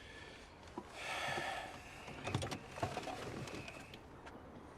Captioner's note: Loz sighs